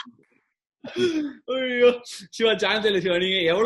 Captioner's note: laughs